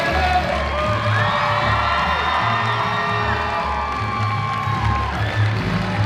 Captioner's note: audience cheering; upbeat music